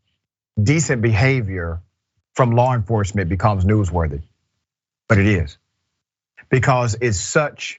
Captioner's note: laugh